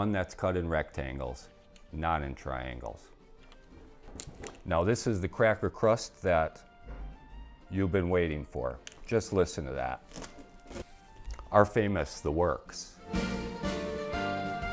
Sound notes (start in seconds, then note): 10.0 pizza cracks